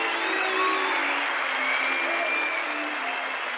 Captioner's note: crowd cheering